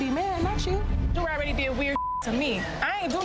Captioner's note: beep